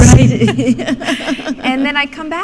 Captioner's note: laughter